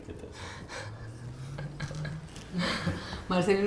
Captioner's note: risas